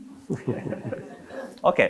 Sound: all laughing

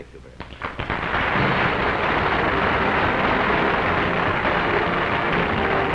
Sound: applause

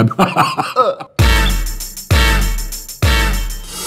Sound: laughs; gags

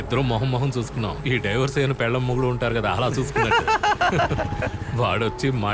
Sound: laughs

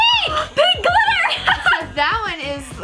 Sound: laughing

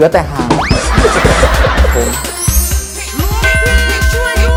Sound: laughing sound

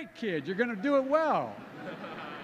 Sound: laughter

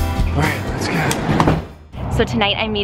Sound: van door sliding

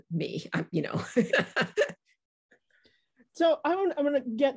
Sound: laughing

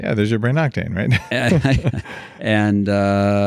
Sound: laughing

